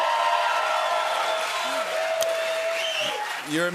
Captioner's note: cheers and applause